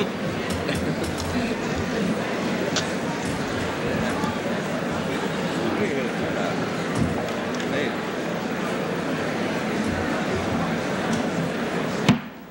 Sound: laughter

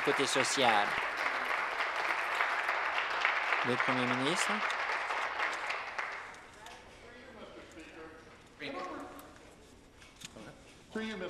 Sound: applause

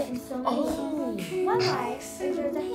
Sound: laughs

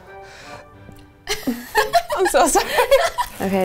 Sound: sighing; giggling

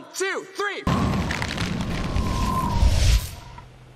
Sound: explosion booms

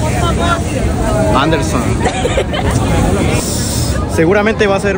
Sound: chuckles

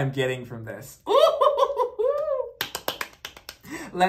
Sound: claps

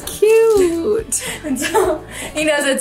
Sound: laughing

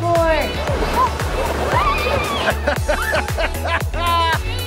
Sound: laughter

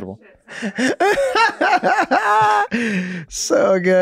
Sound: Rob laughs

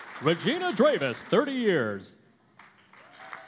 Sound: cheering and Applause

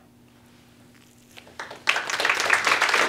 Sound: applause

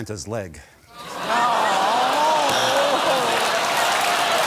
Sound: crowd laughing and 'aw'-ing

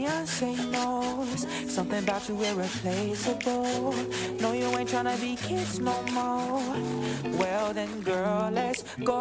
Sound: continuously hums the song

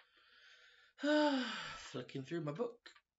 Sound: sighs

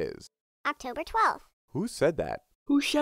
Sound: voiceover

